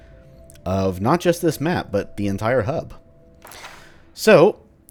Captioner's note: journal opens